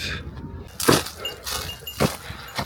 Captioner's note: Bear Bell jingling